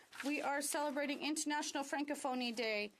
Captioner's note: speaking French